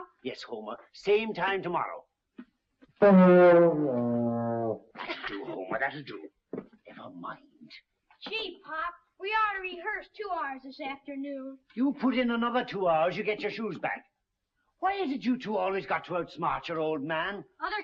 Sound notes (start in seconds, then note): 3.0 horn moaning